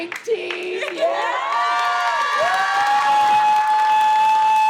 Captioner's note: students cheering